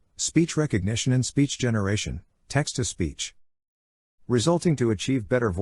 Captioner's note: text to speech